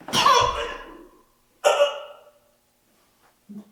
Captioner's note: Jacob coughing